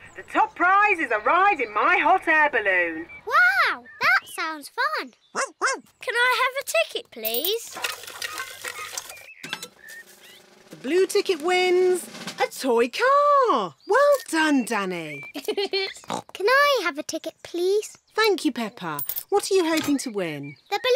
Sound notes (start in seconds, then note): 5.3 barks; 15.3 giggles; 16.0 oinks